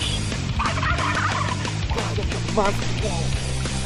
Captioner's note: turkeys gobble; excited chatter